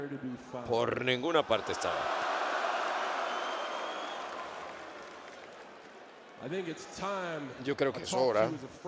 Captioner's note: applause